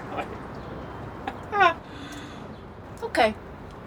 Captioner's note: laughs